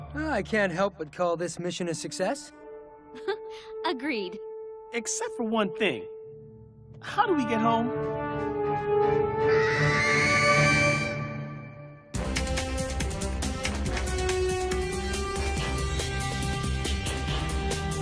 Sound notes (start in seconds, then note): 9.4 squawking